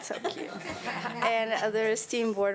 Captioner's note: audience laughing